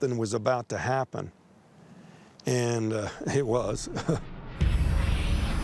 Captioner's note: chuckles